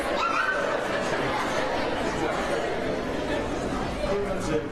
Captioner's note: laughter